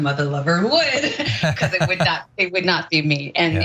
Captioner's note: laugh